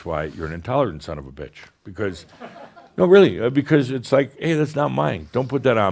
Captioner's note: a few chuckles